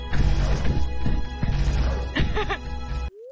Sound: giggles in fear

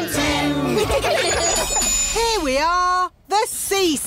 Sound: laughter

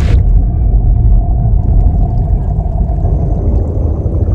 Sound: bubbling

